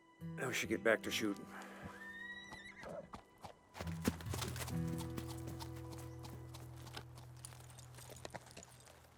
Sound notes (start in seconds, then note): 2.0 horse whinny, trotting